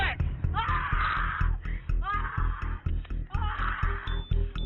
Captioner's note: woman screaming